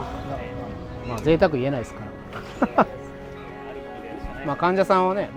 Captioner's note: laughs